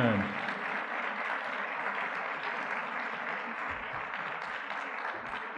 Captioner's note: audience clapping